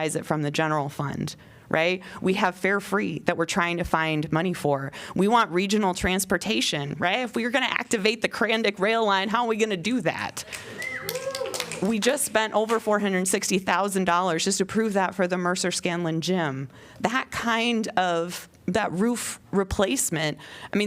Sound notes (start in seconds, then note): 10.4 applause